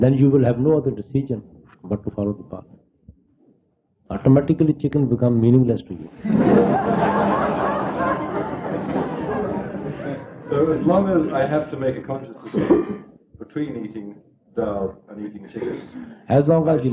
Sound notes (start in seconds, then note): 6.1 laughter